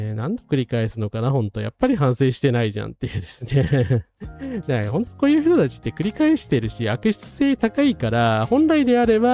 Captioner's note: laughs